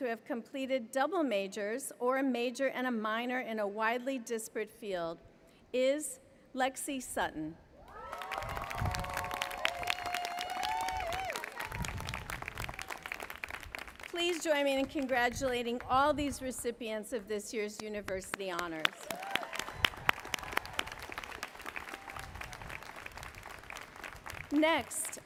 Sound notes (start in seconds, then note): 7.9 applause; 18.5 applause